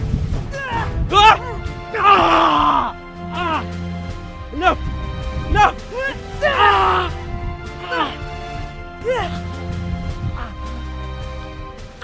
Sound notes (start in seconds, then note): 1.9 screams in pain; 6.3 screams